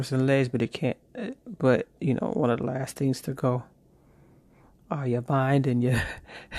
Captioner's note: nervous chuckle